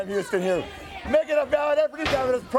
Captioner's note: crowd cheering